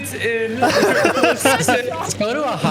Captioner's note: laughing